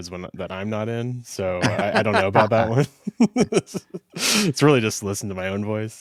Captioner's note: laughs